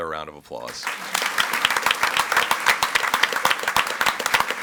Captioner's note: audience applauds